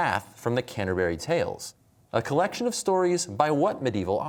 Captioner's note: none